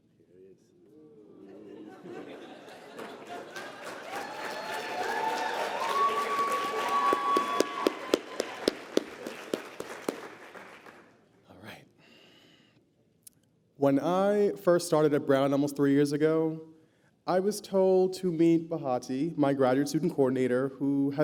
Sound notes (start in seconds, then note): 2.7 applause